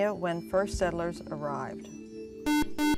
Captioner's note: buzzer